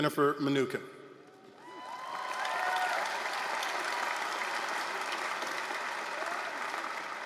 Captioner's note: applause, cheering